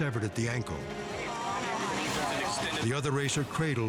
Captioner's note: crowd chatters